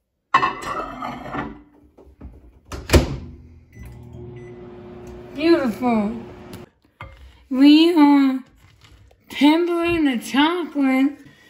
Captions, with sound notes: [SCRAPING] [SHUTTING] [BEEPING] Beautiful. We are tempering the chocolate.